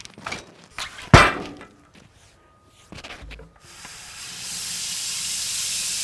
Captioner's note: log hitting metal; saw buzzing